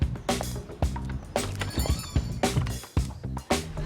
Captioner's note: bell rings; people chatting